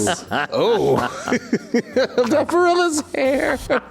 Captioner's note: laughing